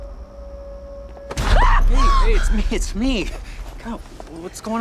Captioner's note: screams